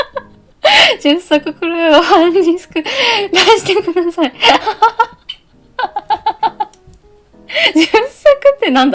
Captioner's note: laughter